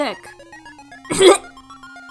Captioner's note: death cough